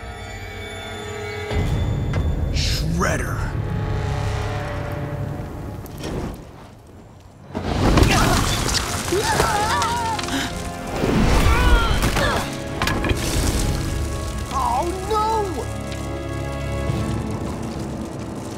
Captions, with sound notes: Shredder! [screaming, gasping] [grunting] Aww, no!